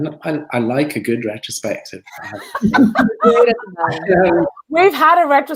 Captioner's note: laughter